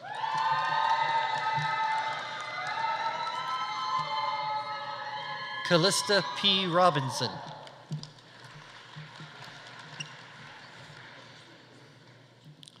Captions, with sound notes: (audience applauding) (audience cheering) Callista P. Robinson. (audience applauding)